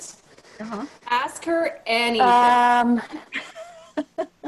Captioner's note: chuckles